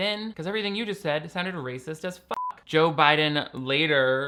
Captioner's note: beep